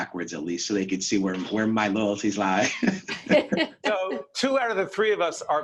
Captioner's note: all laughing